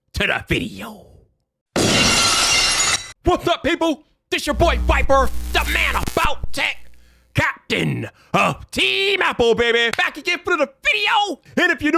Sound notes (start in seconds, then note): 2.0 glass shattering